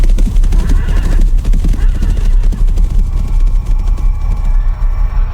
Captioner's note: horse neighing; eerie music